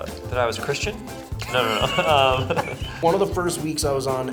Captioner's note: Ben and Bobby laugh